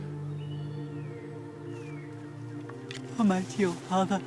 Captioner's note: birds chirping; gentle music